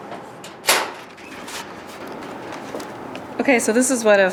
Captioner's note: storage locker opening